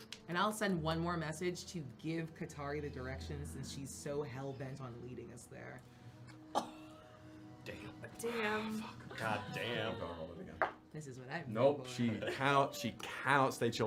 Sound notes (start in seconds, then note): 6.8 gasps